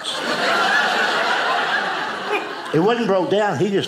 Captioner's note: audience laughing